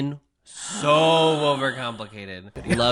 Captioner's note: gasps